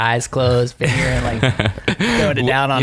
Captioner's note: laughing